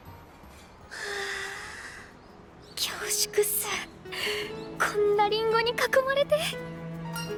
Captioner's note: sigh